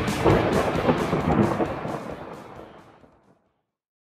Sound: thunder rumbling

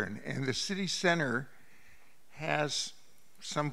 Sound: none

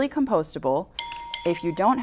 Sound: bell rings

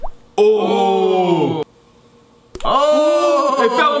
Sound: both oohing

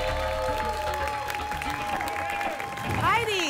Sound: applause and cheering

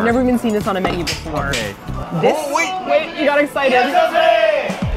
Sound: hears sticks clap

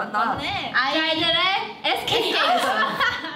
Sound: speaking in Korean; everyone laughs

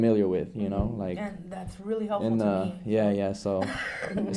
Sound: laughs

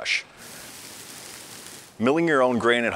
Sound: malt pouring

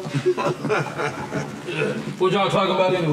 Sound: chuckling

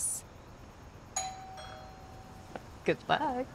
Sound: doorbell rings

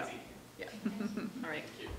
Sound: chuckling

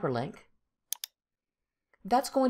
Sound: mouse clicks

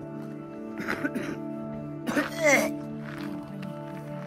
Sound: coughing

